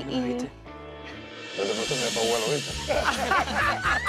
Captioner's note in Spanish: Risas